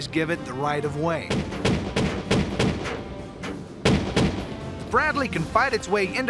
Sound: gun shots

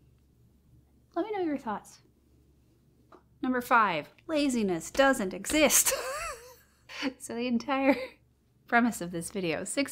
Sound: laughs

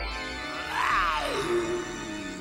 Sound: werewolf growling

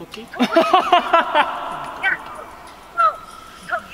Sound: laughing

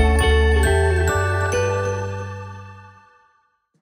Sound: gently chiming bells

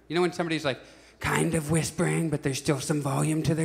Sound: whispering

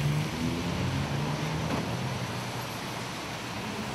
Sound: sound of cars passing

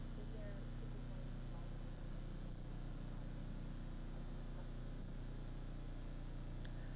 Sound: speaking softly

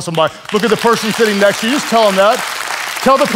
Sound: audience claps

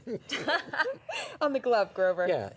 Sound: laughter

